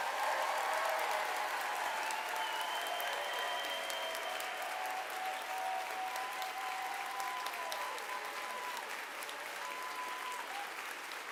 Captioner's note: applause